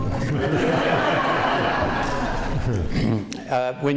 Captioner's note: laughter